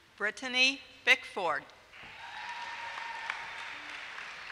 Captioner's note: applause